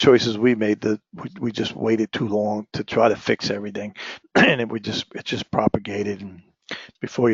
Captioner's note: cough